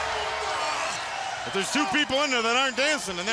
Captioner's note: crowd cheering